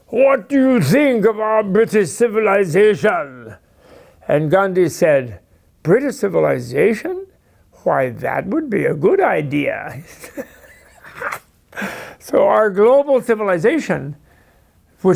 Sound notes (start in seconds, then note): 9.9 laughs